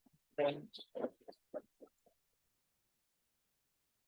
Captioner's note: audience applauding